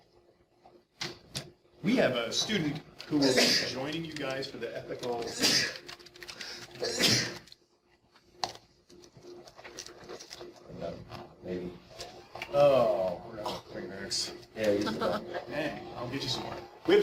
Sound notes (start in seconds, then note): 5.1 student sneezing multiple times